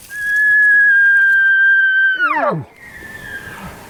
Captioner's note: cow mew